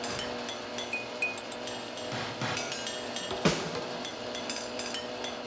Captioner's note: mixers continue to whir